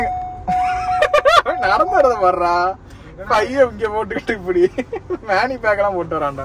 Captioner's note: Laughs